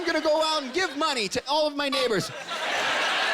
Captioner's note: honking